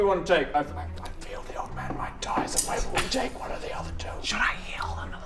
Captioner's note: whispers